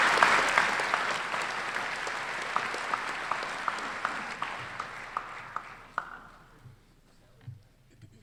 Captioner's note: applause